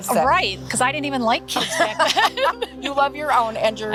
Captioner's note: laughs